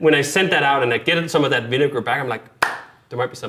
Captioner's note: hands clap